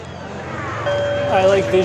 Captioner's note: dings